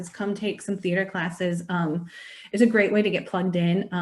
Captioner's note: none